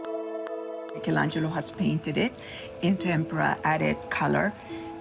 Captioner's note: music fades out; female voice in English